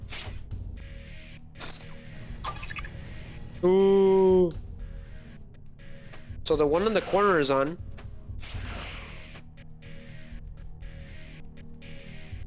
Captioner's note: snorts